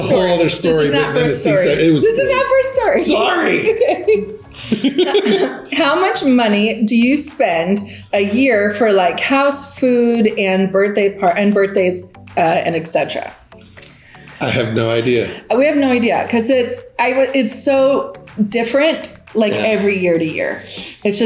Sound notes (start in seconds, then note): 4.8 both laugh